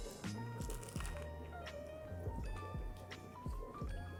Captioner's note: pastry crunches